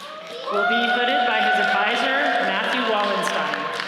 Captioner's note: audience cheering